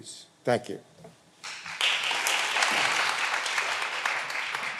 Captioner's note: all applauding